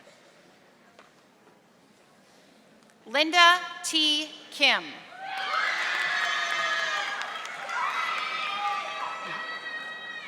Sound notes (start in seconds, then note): 5.3 audience applauding